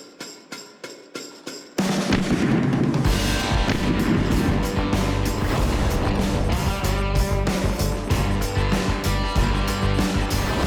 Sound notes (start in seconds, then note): 2.1 gun firing; 5.4 beeping; 5.4 whooshing